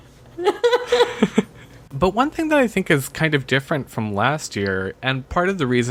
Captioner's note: laughs